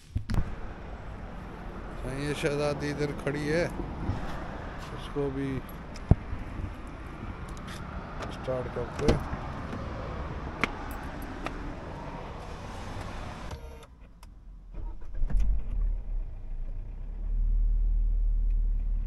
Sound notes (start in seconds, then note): 4.4 car